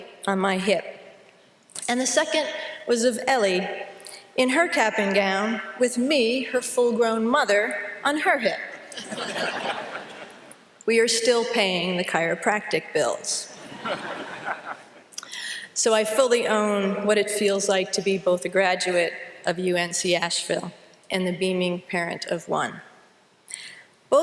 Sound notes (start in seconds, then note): 8.9 laughter; 13.6 laughter